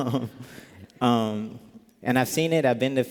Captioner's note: laughter